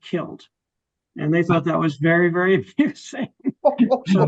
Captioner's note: laughs